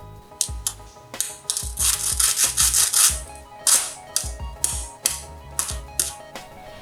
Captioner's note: sfx: crunch crunch